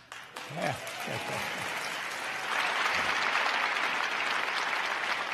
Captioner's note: crowd applauding